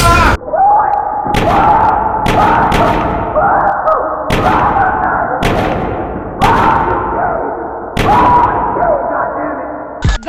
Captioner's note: mental breakdown, accompanied with loud thuds